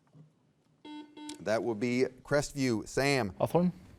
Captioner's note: buzzer beeps